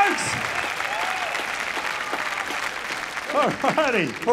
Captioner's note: applause